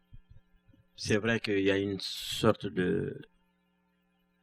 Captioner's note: speaking french